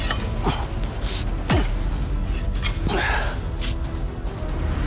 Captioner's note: grunting